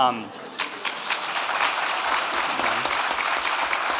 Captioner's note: audience clapping